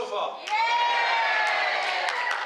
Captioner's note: cheers